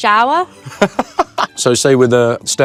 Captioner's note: Louis laughs